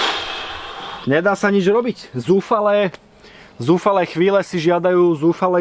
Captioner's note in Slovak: smrkanie